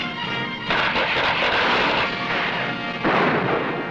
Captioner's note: tense music; gunshots blasting